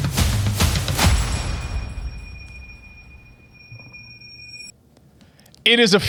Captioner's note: beeping